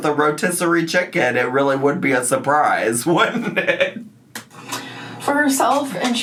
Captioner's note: laughs